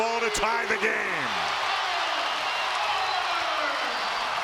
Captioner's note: crowd cheers